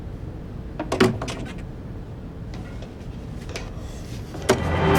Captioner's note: stair squeaking; fast dramatic music